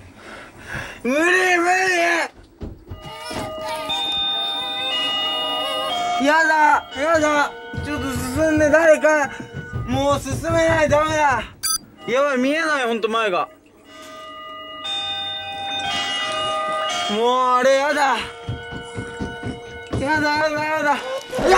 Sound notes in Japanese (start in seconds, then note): 3.0 赤ちゃんの泣き声; 14.7 学校のチャイムの音